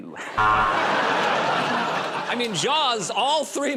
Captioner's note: buzzer